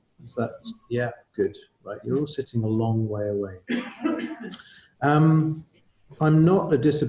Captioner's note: laughter